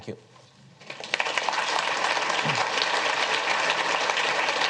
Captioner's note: audience clapping